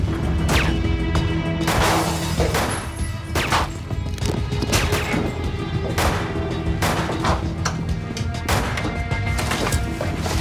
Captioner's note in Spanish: Disparos